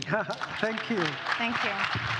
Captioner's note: audience applauds